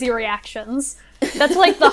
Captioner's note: hosts laugh